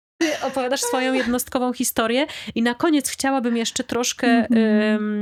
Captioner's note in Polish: śmiech